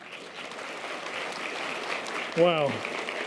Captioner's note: audience applause